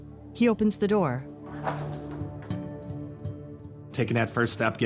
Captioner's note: door opening